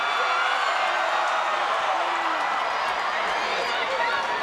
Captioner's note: audience cheering